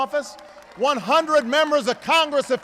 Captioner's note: applause